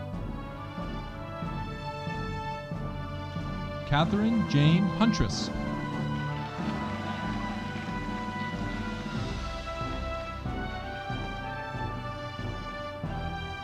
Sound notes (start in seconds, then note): 6.6 audience applauding